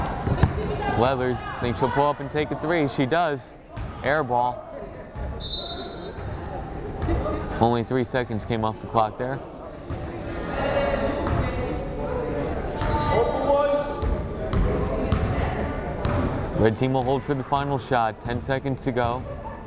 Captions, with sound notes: Leathers, think she'll pull up and take a three, she does. Air ball. (whistle blows) Only three seconds came off the clock there. (crowd chattering) Red team will hold for the final shot, 10 seconds to go.